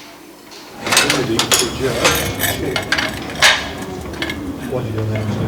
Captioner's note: sounds of students cutting and laying tiles